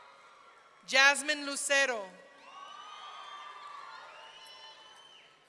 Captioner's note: audience cheering